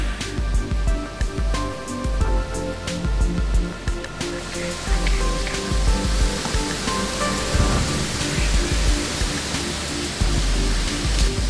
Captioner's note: sound of loud snort-wheeze call; sound of wind in trees